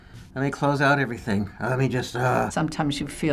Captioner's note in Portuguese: gemendo